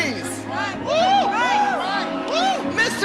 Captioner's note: cheers